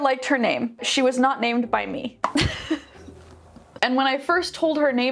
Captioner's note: laughs